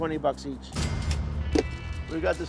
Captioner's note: cash register dings